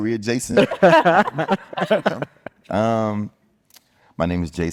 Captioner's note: group laughing